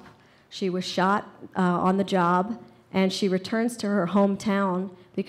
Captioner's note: none